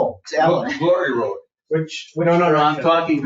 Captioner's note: people chattering